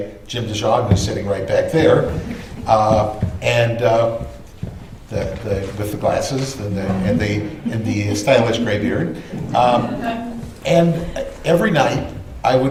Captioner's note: laughter